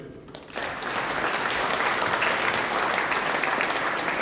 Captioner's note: audience applauding